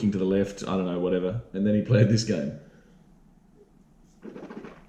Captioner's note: slurping sound